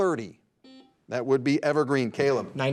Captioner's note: buzzer dings